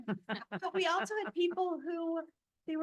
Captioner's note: board members laugh